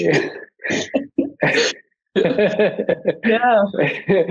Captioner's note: panelists laughing